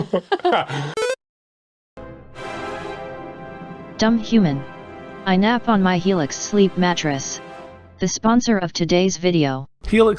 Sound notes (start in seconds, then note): 0.0 laughing; 0.9 video game beep; 2.0 epic music